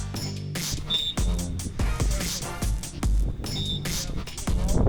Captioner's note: whistle blows